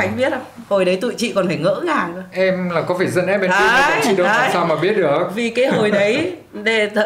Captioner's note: laugh